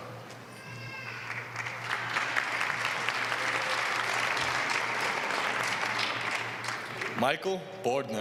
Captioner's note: applause